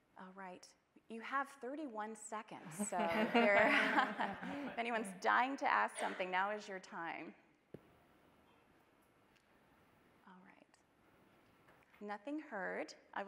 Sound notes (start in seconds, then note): 2.7 panelists chuckle; 2.8 audience laughing